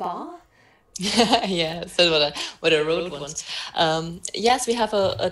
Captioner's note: laughs